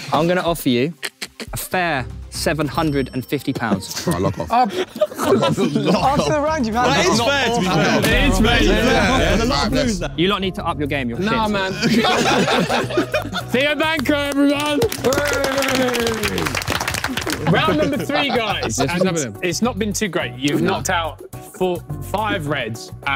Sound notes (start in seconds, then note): 11.5 everyone laughing; 13.7 everyone clapping